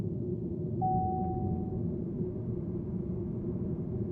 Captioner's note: car warning chimes